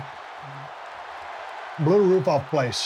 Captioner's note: crowd continues cheering